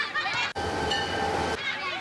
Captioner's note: children laughing; train bell ringing; children laughing